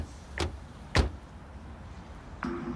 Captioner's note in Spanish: Portazos